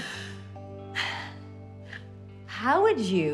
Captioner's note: sighs